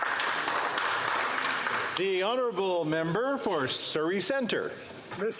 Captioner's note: some Applause